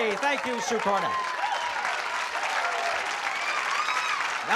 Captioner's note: applause